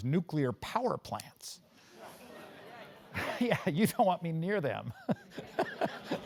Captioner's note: laugh